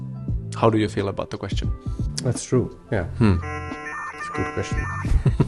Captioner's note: error sounds